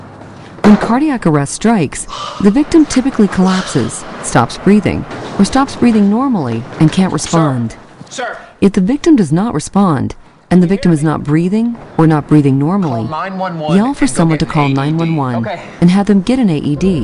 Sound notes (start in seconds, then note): 2.0 hard-breathing